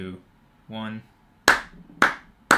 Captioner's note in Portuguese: Som de mãos batendo palmas